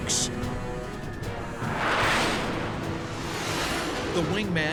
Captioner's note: jet engine noises